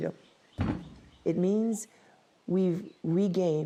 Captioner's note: machete thunks